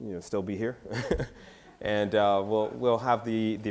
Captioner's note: laughs